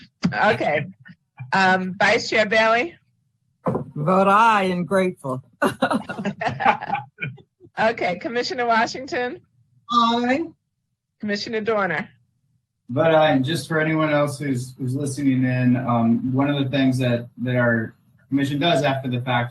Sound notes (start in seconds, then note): 5.6 laughing